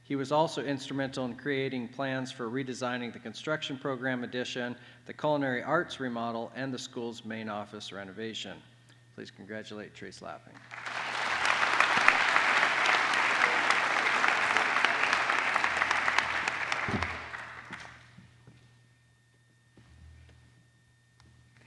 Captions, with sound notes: He was also instrumental in creating plans for redesigning the construction program addition, the culinary arts remodel, and the school's main office renovation. Please congratulate Trace Lapping. [APPLAUSE]